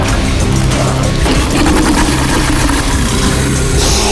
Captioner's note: gun firing; dramatic music